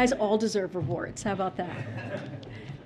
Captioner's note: laughter